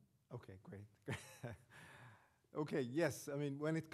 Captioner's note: laughing